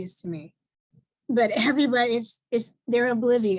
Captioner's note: chuckles